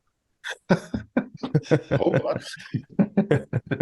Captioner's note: both laughing